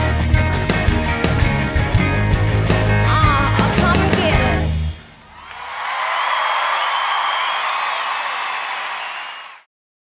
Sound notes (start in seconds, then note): 0.0 upbeat music continues; 5.2 audience cheers